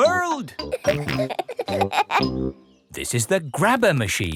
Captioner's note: peppa and george laughing